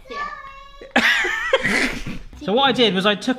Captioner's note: laughs